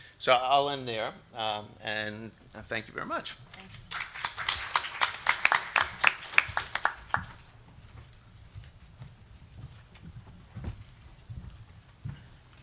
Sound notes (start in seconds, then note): 3.5 audience applauds